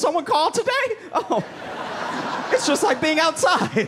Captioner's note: laughter